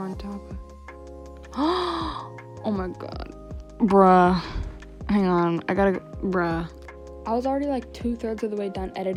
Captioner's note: gasp